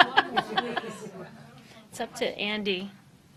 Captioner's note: laughter